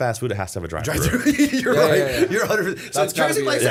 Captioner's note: laughter